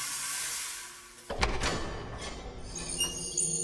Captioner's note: door opens